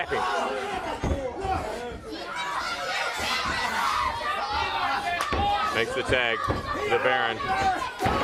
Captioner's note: crowd chatter